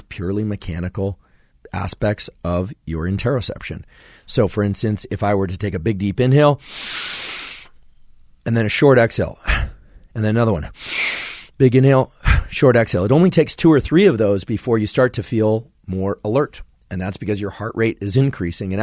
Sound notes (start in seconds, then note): 6.6 inhales deeply; 10.7 exhales quickly; 10.7 inhales deeply